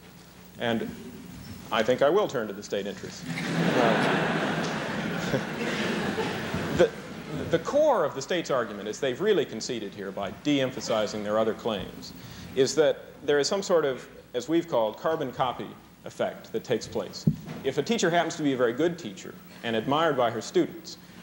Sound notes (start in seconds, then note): 3.2 laughter